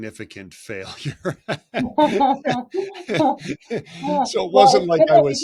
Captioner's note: both laughing